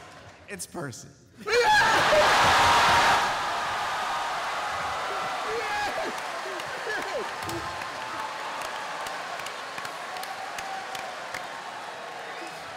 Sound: cheering

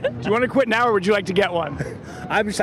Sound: laughter

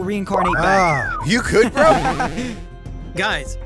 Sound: laughs

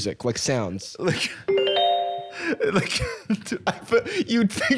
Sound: pleasant chime

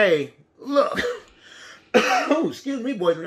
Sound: coughing

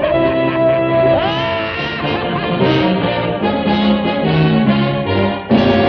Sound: laughs

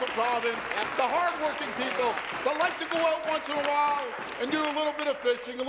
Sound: applause

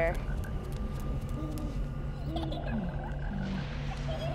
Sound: owl hoots; little girl giggling

